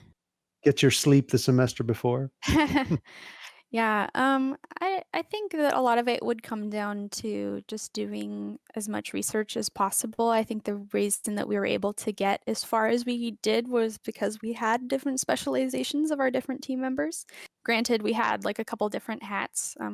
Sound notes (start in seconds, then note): 2.4 chuckles